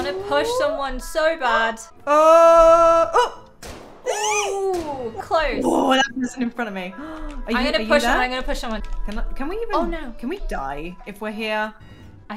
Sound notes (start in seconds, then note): 3.1 screams nervously